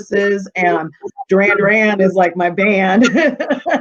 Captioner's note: laughing